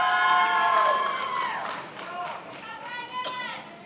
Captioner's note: attendees applauding